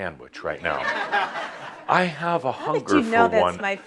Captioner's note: laughter